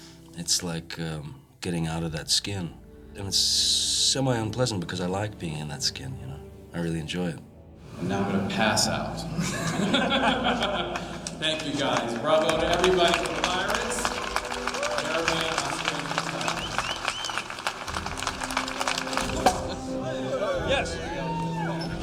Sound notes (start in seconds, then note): 9.2 laughter; 16.6 cheers and applause; 19.5 cork popping